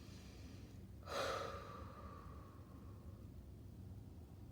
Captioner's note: exhales deeply